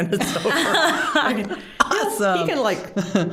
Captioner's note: all laughing